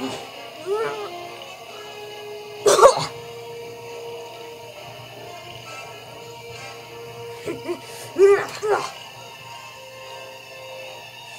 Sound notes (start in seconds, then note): 1.7 coughs; 8.1 laughing